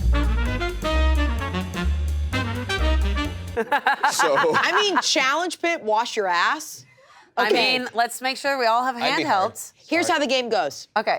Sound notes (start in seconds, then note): 0.0 jaunty music; 3.5 laughter